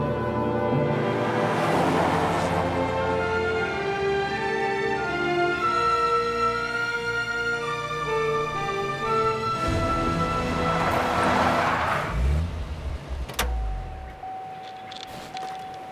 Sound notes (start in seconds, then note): none